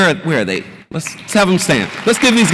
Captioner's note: audience applauds